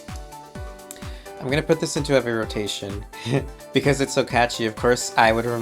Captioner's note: chuckles